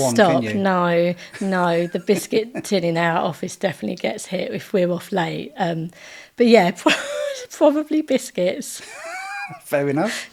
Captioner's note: laughing